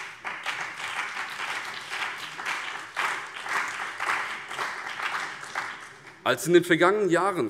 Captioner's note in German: Beifall BÜNDNIS 90/DIE GRÜNEN und vereinzelt CDU